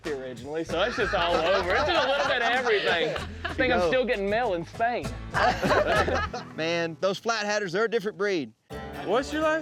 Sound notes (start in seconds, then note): 5.3 all laughing